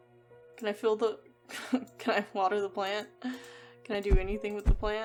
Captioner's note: laughs